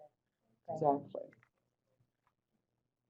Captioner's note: voiceover